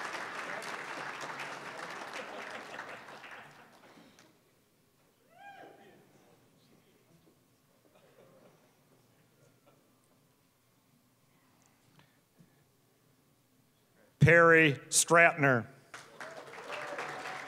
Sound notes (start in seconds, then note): 0.0 applause, cheering; 0.0 applause; 2.2 scattered laughing; 15.8 applause